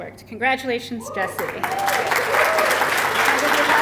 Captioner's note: applause